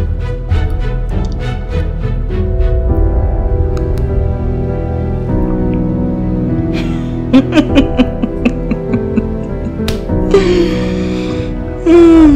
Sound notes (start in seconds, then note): 7.3 chuckles